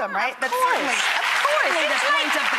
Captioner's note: applause